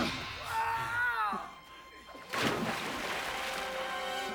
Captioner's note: man screaming